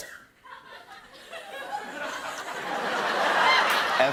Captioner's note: laughter